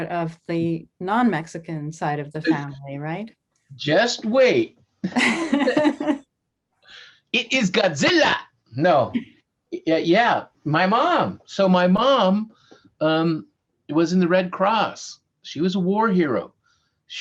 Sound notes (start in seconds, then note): 5.0 both laughing